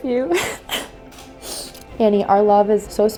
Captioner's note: crying